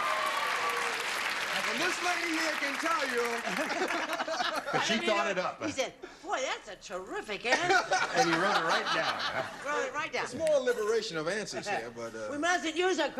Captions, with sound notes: AH, THAT'S A GOOD ONE. [CLAPPING] AND THIS LADY HERE CAN TELL YOU. [LAUGHTER] BUT SHE THOUGHT IT UP. HE SAID, BOY, THAT'S A TERRIFIC ANSWER. AND HE WROTE IT RIGHT DOWN. WROTE IT RIGHT DOWN. A SMALL LIBERATION OF ANSWERS THERE, BUT.